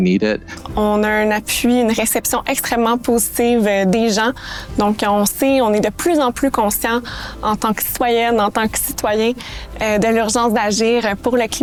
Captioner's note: speaking French